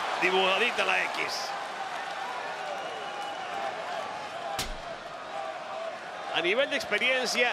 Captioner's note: applause